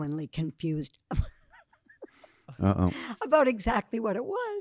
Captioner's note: laughing